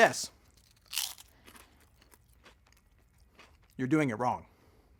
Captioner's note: munching